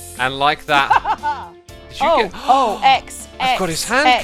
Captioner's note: victorious laugh; gasps